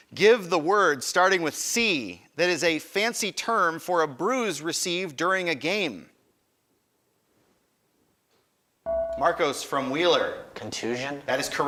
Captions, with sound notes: Give the word starting with C that is a fancy term for a bruise received during a game. (buzzer chimes) Marcos from Wheeler. >> Contusion.